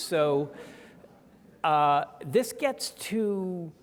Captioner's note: audience chuckling